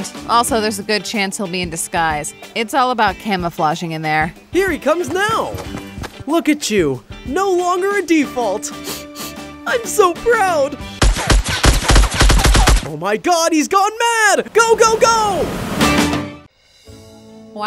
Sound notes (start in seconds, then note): 11.0 gun blasting; 14.5 boat engine roaring